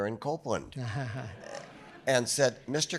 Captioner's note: chuckles